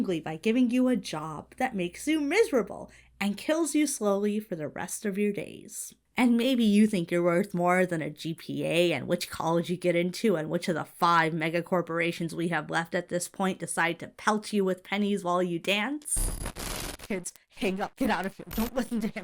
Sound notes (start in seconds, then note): 16.1 audio glitches